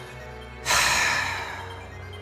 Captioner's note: sigh